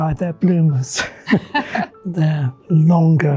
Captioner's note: both laughing